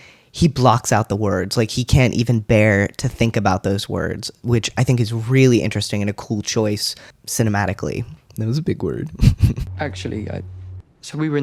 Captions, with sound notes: he blocks out the words like he can't even bear to think about those words, which I think is really interesting and a cool choice cinematically. That was a big word. [laugh]